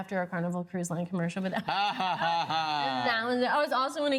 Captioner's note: laughs